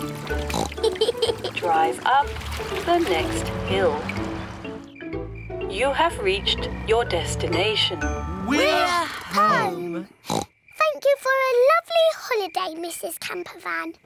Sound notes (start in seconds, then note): 0.4 oinks and giggles; 10.2 oinks